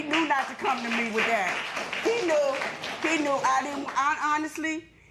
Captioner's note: applause